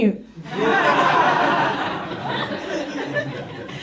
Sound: audience laughs

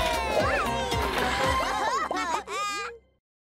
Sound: laughing

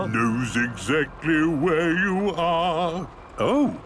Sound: mimicking tune

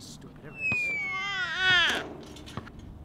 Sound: baby crying sound

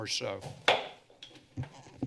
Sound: hits gavel

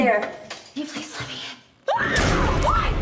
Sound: screams

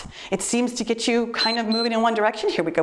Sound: timer beeps

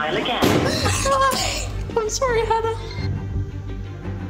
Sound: giggling

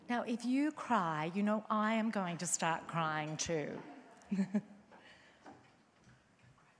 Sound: chuckles

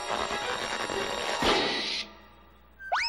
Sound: pop

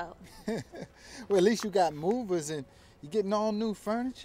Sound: laughs

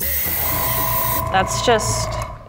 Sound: air blowing

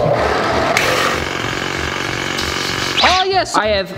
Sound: low drill sound

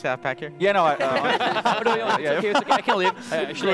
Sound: laughs

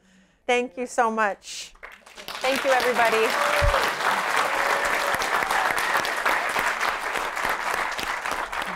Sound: applause

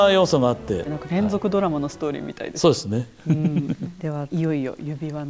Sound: laughs

